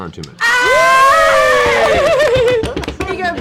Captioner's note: cheering